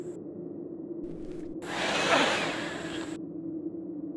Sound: thunderous noise

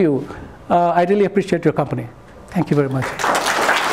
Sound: applause

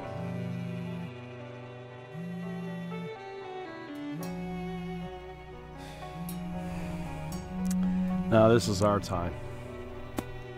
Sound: phone rings

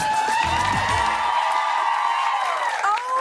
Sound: cheers and applause

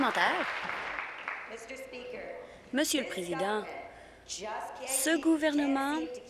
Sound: applause

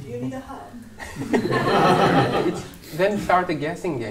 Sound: laughter

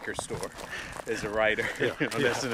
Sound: laughs

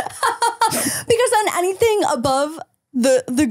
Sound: laughs

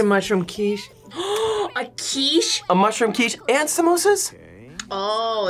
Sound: gasps

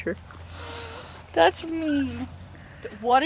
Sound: gasp

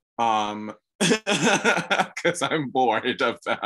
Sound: laughs

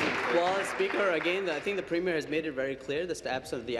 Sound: applause

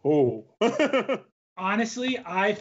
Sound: laughs

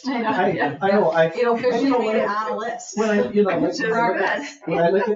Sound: people chattering

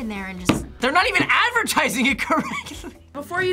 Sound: laughs

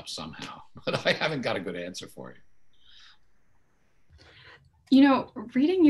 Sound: laughing

